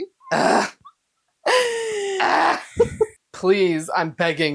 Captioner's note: exasperated noises